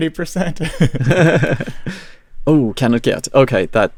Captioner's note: laughs